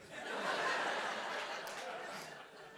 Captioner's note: laughter